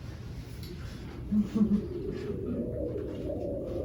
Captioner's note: scattered laughter